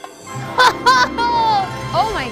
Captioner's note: laughing